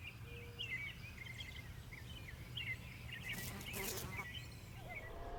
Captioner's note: birds chirping